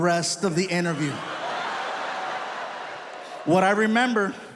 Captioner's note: audience laughs